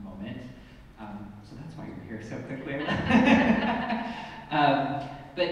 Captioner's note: laughs